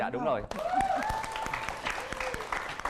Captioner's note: applause